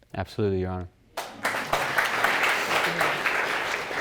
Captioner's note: all applauding